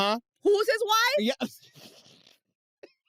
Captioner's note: laughs